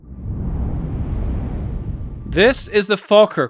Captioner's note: animation whooshing